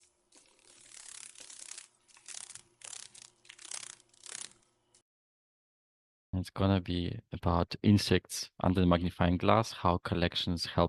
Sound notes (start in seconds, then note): 0.4 sounds of a dragon fly